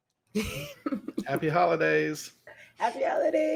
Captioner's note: chuckles